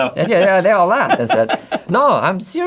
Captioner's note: laughs